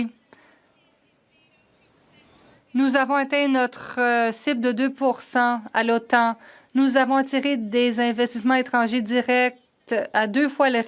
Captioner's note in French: voix de l'interprète